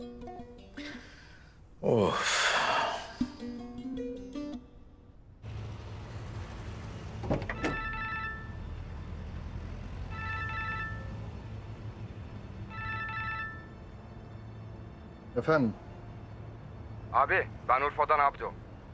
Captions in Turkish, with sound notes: Of. [Telefon Çalıyor] Efendim. Abi, ben Urfa’dan Abdo.